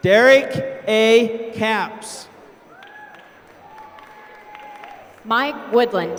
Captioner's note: applause